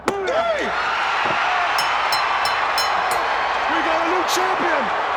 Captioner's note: crowd cheering; bell ringing